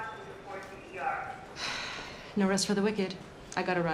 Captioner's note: sighs